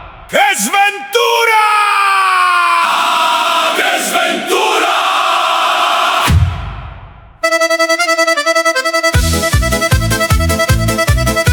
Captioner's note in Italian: urlo